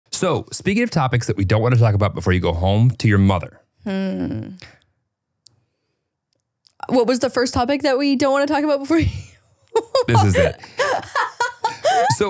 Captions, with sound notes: - So speaking of topics that we don't wanna talk about before you go home to your mother. - Hmm, what was the first topic that we don't wanna talk about before you? (laughing) - This is it, so, okay.